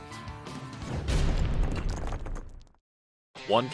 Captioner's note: logo thuds